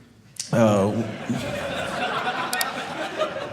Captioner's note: audience laughing